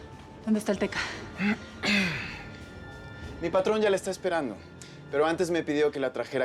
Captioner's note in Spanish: él carraspea